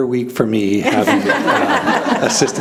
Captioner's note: laughing